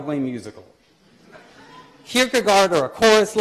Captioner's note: laughter